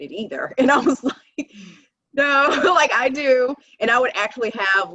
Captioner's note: laughing